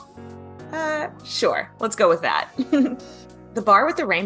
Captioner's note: chuckles